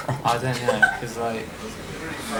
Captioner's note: woman laughs